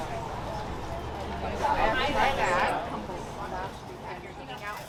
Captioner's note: chatter